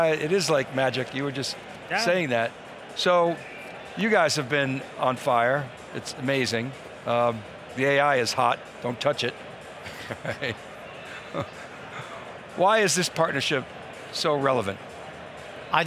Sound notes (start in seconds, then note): 9.8 laughter